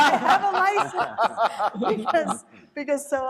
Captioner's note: panelists laughing